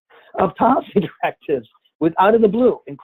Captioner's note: laughs